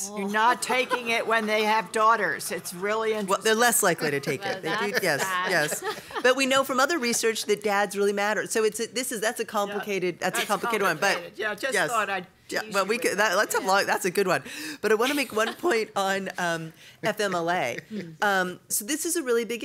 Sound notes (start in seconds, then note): 4.0 laughter